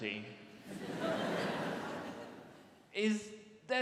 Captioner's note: audience laughs